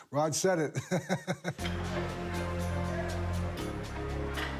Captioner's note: laughs